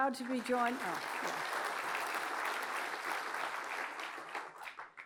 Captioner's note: applause